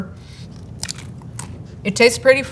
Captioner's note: mouth crunching